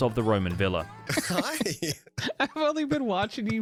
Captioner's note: laughs; laughing